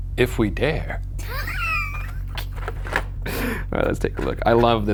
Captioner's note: laughs